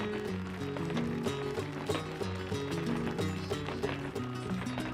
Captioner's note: acoustic music begins; crowd applauding; heels rhythmically clicking